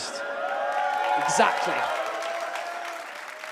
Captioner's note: audience cheers and claps